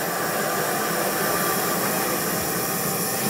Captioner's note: hiss